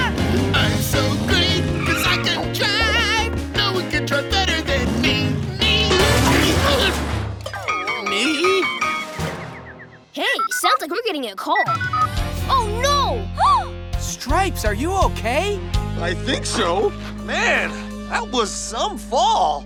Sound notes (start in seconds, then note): 0.2 singing; 7.8 groaning; 13.4 Gabby gasps